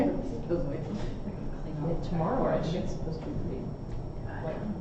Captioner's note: background talking